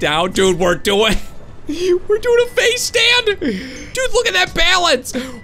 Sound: laughs

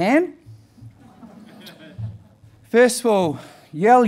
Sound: audience laughing

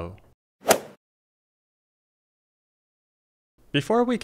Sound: golf swing sound effect

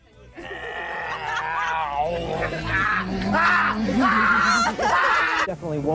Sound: even more screaming

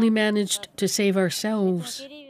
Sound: speaking alternate language

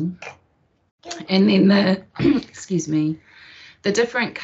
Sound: clears throat

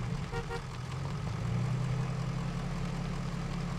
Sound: horn beep

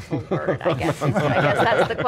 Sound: all laughing

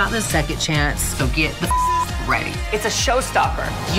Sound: beep

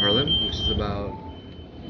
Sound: device beeps

